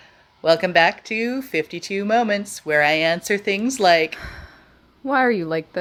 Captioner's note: sigh